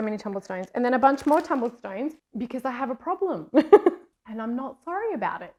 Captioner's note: laughs